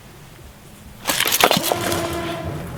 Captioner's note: mail clattering; dramatic music